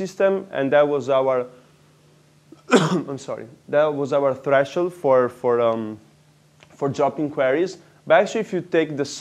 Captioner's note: cough